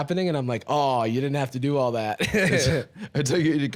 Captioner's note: laughs